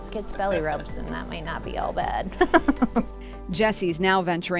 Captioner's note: laughs